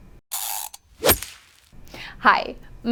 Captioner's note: whoosh